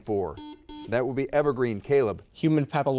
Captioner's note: buzzer dings